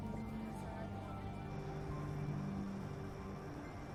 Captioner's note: crickets chirring